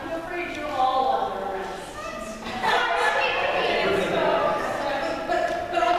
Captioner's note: suspects bicker